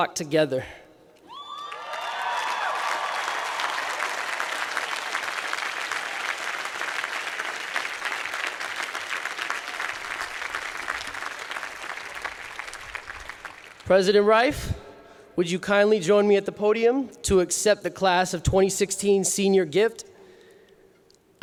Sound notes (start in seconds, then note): 1.2 cheering